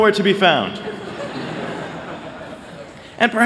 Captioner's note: laughter